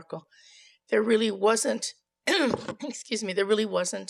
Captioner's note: clears throat